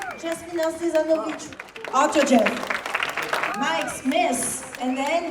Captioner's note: applause